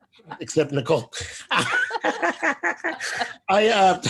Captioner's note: laughs